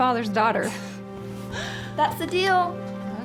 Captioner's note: laughs; chuckles